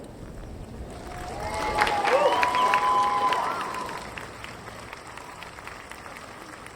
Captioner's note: audience applauding; audience cheering